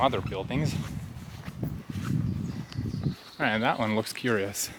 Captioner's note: air whooshing